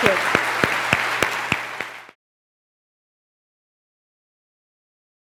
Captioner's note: applause